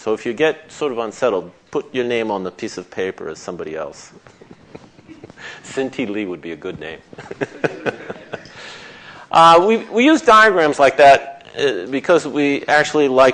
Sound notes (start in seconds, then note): 7.1 laughter